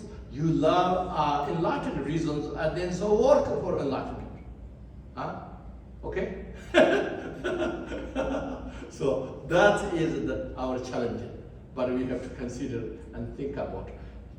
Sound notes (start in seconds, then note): 6.6 laughs